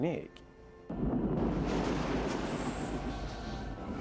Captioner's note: thunder rumbling